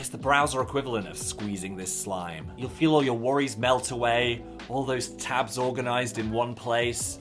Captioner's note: none